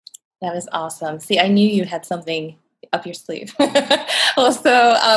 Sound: laughs

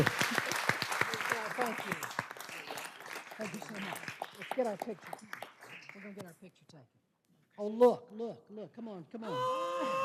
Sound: applause

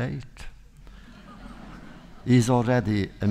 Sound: audience laughter

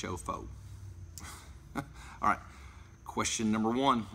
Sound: laughs

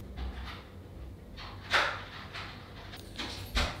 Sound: door unlocking

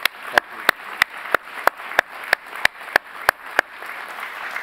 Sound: applause

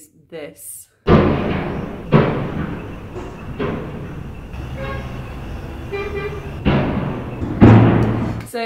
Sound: crash, bang, truck horns, crash, bang

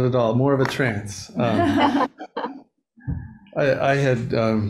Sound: all laughing

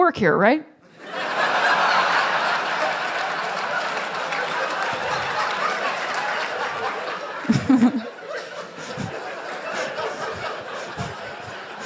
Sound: laughter

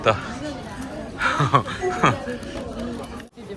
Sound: laughter

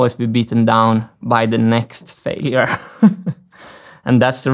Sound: chuckles

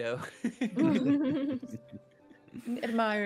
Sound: all chuckle

